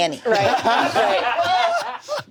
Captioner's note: everyone laughs